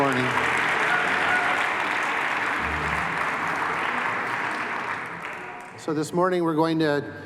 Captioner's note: applause